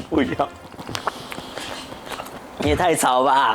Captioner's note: there are birds chirping outside at this time